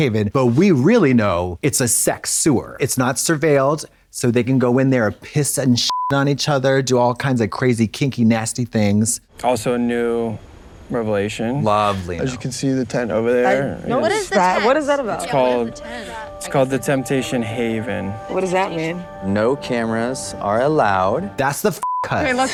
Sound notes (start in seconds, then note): 5.9 beep; 21.8 beep